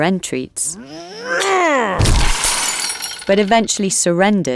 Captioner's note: Samson growls